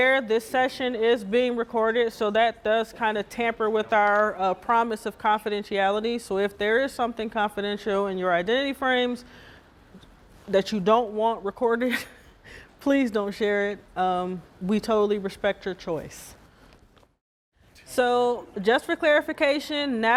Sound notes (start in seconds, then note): 12.0 laughing